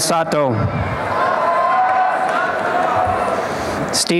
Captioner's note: applause and cheering